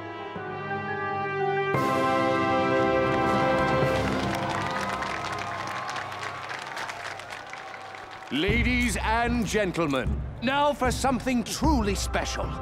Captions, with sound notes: [applause, cheering] Ladies and gentlemen, now for something truly special.